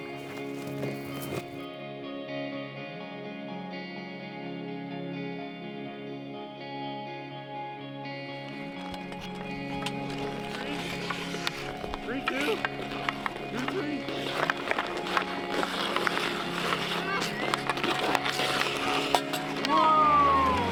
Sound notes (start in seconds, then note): 0.2 gentle music; 9.0 ice skates grinding